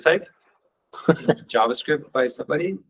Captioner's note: chuckling